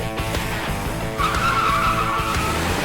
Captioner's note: tire screech